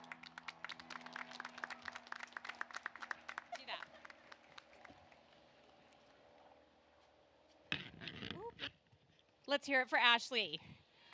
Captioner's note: applause